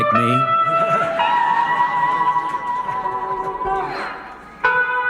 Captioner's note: audience laughs